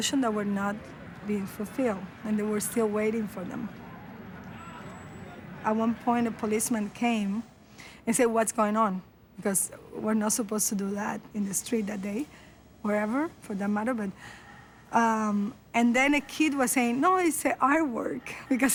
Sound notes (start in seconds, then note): none